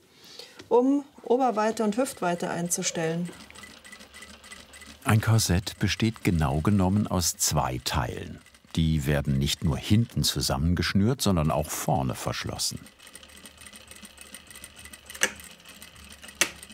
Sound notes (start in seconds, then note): 13.3 sewing machine chattering; 15.5 clicking